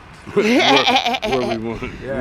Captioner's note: laughing